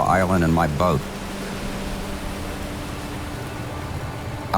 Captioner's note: boat engine hums